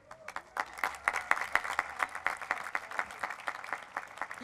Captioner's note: applause